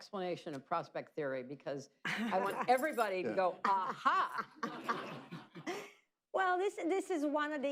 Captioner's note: laughter